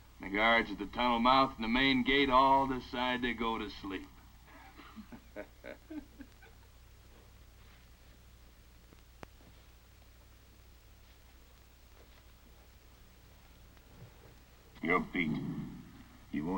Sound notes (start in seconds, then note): 4.4 Redfield and Jumper chuckle